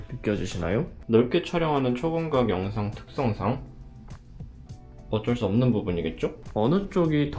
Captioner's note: distortion